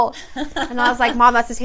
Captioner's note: laughs